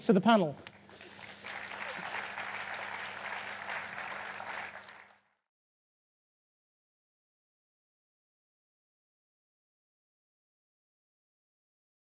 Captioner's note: applause